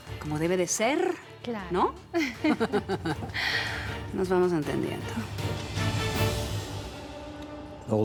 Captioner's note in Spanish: Risas